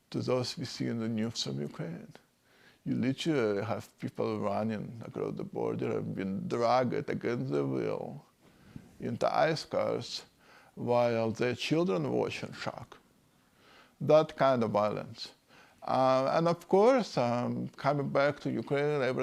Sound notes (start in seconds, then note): none